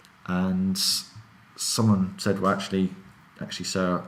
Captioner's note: none